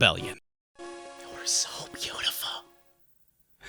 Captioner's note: whispering